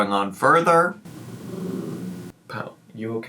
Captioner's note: Potato grunting